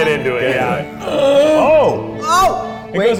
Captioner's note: grunting